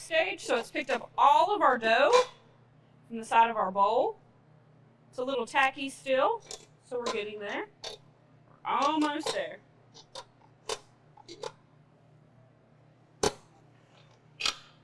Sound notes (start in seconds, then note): 11.2 items clacking